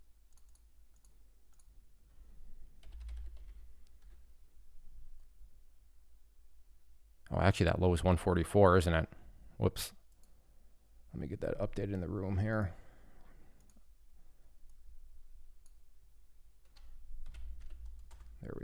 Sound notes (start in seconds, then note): 0.3 mouse clicking; 2.9 keyboard clattering; 13.8 mouse clicking; 16.9 keyboard clattering